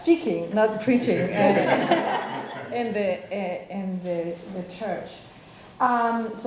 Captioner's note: audience laughing